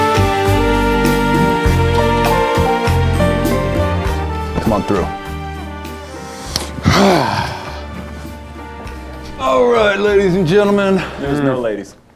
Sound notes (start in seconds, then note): 6.8 grunts